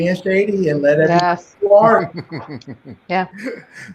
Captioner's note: laughing quietly